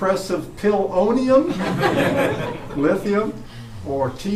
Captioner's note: laughter